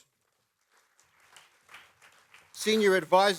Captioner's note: applause